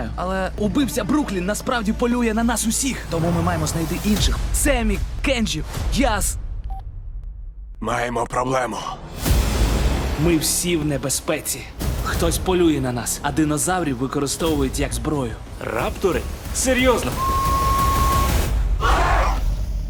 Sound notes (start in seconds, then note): 6.4 phone beeps; 18.8 raptors growl